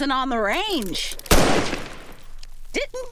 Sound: gunshot

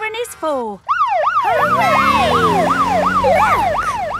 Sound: siren

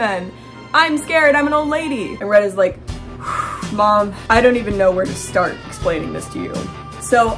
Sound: sigh

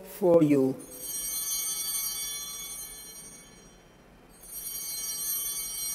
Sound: bell ringing

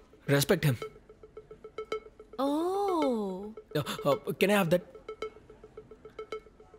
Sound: none

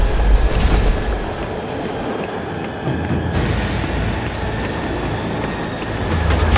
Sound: wind blowing

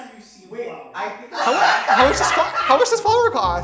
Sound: laughter

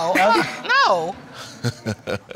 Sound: laughs; laughs mockingly

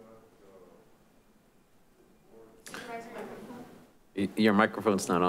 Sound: distant speaking

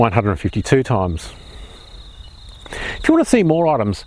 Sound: birds chirping

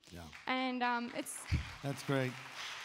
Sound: audience applauds

